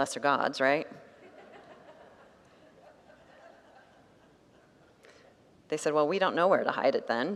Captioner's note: congregants laugh